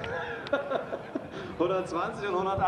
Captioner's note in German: Kommentator lacht